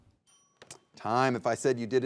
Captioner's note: timer dinging